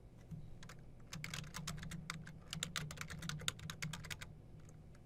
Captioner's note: typing